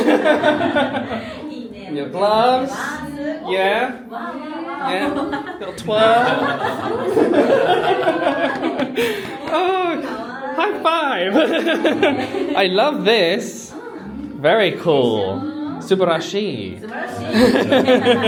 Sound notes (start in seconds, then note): 0.0 group laughs; 7.9 group laughs; 11.2 laughs; 16.9 group laughs